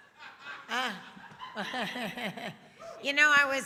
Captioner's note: laughs